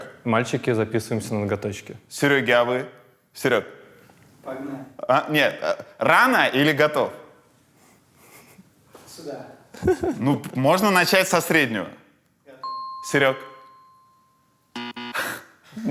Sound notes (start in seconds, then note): 12.6 ding; 14.7 buzzer